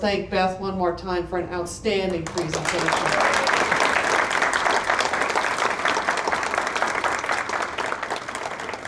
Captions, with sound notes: thank Beth one more time for an outstanding presentation. [APPLAUSE]